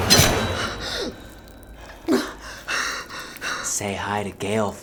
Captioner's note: gasping for air; knife stabbing flesh